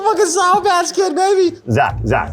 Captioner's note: laughs